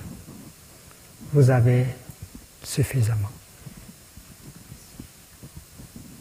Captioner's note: French